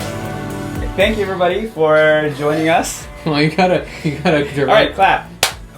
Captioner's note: chuckles